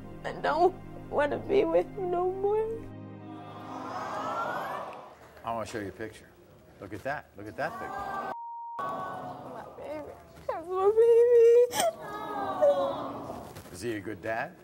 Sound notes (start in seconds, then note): 3.2 audience awes